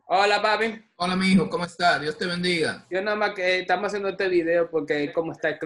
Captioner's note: speaking in foreign language